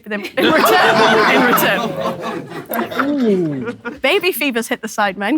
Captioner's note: people in room exclaiming and laughing